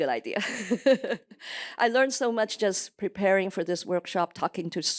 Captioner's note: laughs